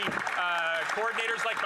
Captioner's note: some Applause